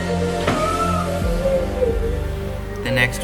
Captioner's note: sobbing noises